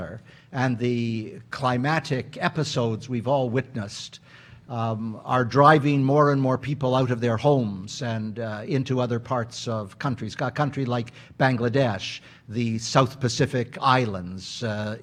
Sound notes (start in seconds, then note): none